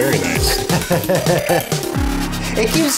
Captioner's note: laughing